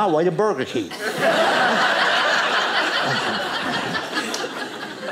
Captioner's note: audience laughing